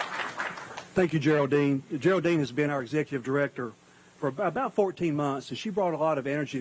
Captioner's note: applause